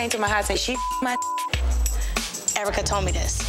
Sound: beep

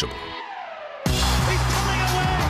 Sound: gunshot

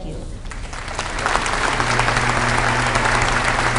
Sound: applause

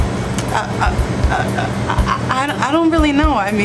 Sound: Liz stammers

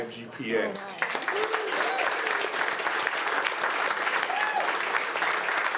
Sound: audience applauding

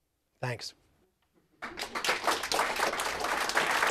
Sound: applause

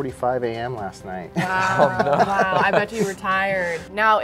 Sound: laughs

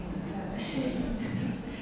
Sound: audience laughing

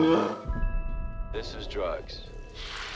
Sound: snarls; on TV; sizzling

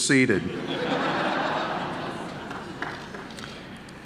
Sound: audience laughing

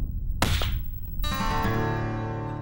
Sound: gunshot

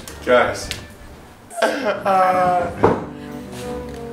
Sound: laughing

